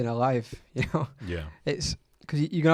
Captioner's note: laughs